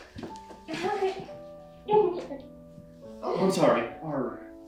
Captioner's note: both laughing